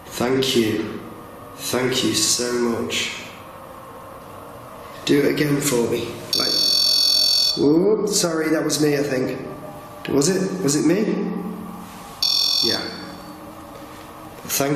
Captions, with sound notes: Thank you, thank you so much. Do it again for me. (REM-POD beeping) Oo, sorry that was me, I think. Was it, was it me? (REM-POD beeping) Yeah.